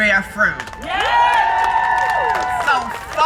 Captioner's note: crowd cheering